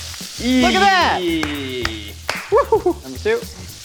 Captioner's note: clapping